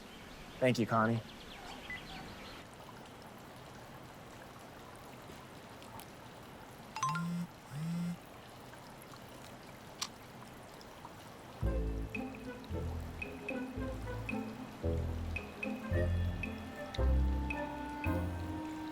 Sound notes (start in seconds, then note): 2.9 water bubbling; 7.0 cell phone chimes